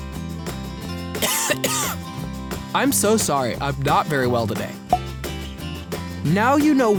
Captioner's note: cough